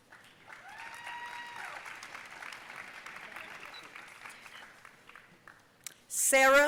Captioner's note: audience cheering and applauding